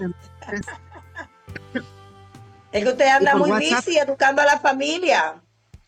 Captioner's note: laughs